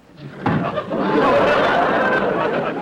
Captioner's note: audience laughter; explosion